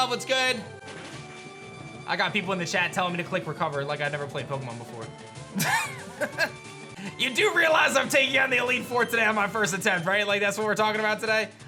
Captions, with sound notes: What's good? I got people in the chat telling me to click Recover like I never played Pokemon before. (chuckles) You do realize I'm taking on the Elite Four today on my first attempt, right? Like that's what we're talking about today.